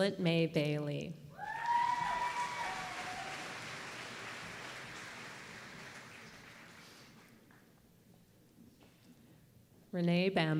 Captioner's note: applause